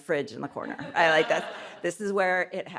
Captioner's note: audience laughs